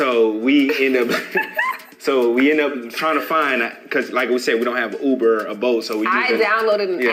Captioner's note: laughing